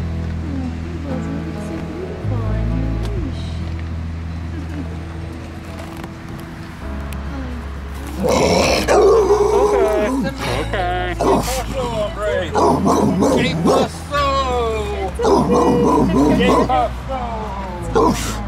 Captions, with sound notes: Aww, there you go, you look so beautiful on your leash. [Barks] It's okay, it's okay. Que paso. It's okay. Que paso.